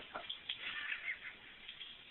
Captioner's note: real crying